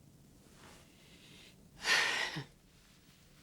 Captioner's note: Madeleine sighs